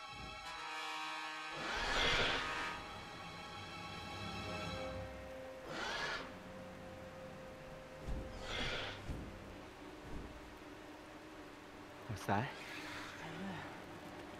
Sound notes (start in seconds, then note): 5.6 dinosaur roar; 7.9 wingbeats